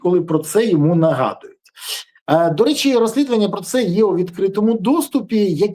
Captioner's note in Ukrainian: сопіння